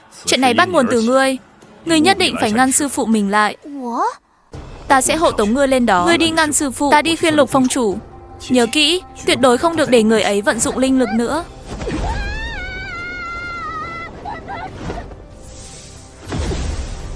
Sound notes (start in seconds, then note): 12.1 crying; 13.4 shouting